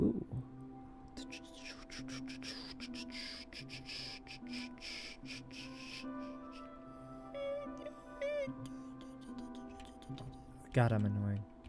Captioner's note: annoying sound effects